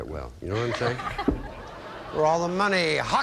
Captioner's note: audience laughing